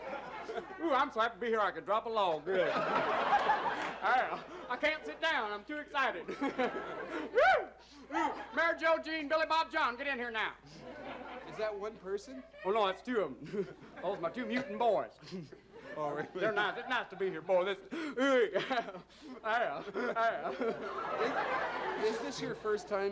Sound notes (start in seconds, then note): 6.0 laughs; 7.1 yelps; 22.5 chuckles